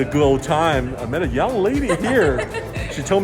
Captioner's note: lady laughs